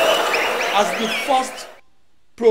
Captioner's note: wild applause and cheering for 22 seconds